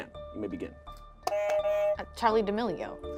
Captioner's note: buzzer rings